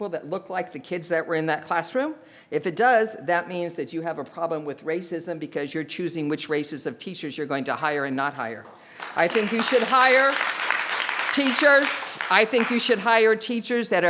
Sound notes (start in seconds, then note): 8.9 audience applauds